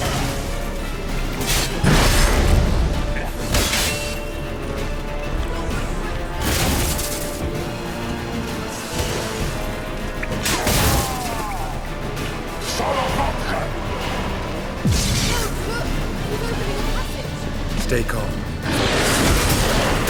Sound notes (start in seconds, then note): 1.8 Quen shield explodes; 10.8 scream